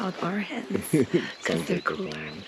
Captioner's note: cameraman laughs